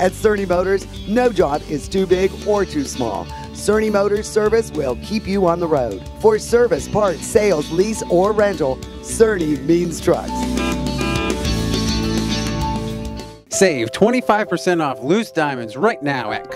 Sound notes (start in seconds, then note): 10.4 horn honks